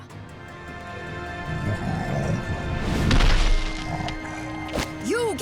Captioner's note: growling